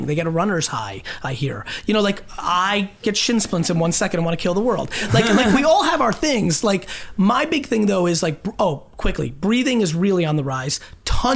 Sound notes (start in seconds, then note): 5.1 group laughs